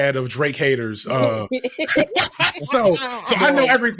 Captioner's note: both laughing